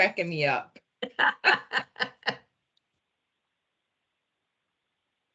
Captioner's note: laughs